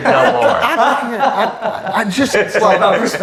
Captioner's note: laughs